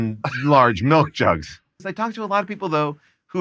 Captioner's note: laughs